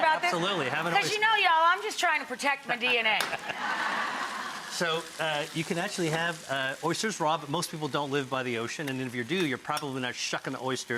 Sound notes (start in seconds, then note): 2.8 audience laughs